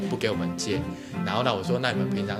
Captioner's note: takes a breath